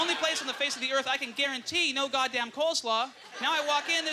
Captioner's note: audience laughter